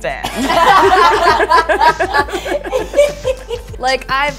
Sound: all laugh

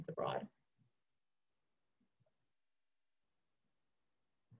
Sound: silence

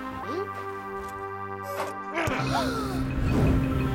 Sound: gasps; grunts

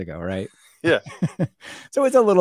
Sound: laughing

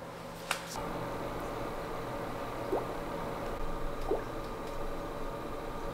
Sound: bubble bubble

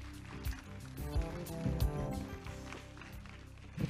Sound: applause

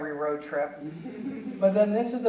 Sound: audience chuckling

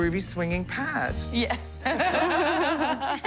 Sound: laughter

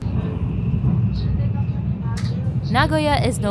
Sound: announcer speaking in Japanese

